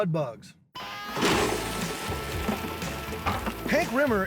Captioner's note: crawdads flapping on table